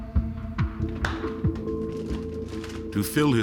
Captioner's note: latch clicks open